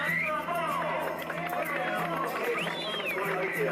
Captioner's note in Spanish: aplausos